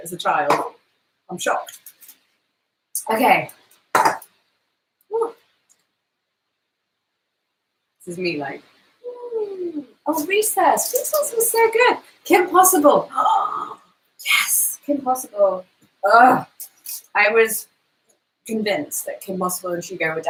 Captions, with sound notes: as a child. I'm shocked. Okay, whew. This is me like ooh. Oh Recess, Recess was so good. Kim Possible (gasps). Yes, Kim Possible (groans). I was convinced that Kim Possible and Hugo